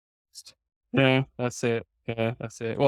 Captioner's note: laughs